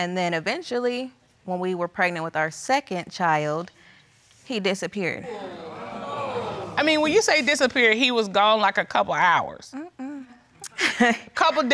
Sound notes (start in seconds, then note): 5.2 audience groaning; 10.6 chuckles